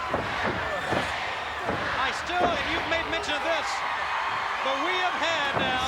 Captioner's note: applause